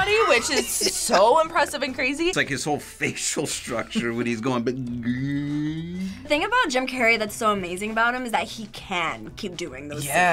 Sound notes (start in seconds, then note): 0.0 laughs; 4.4 groans